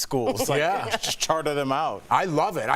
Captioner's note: laughter